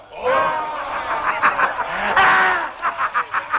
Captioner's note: men laughing